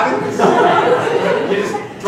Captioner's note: laughing